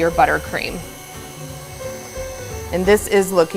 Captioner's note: mixer whirring